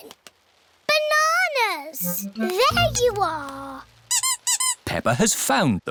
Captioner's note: squeaking